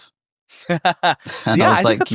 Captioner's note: laughing